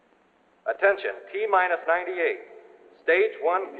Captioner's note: man on PA